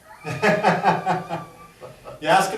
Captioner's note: laugh